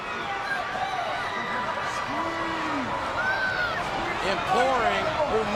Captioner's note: audience cheering